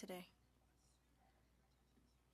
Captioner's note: speaking French